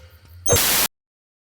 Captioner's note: static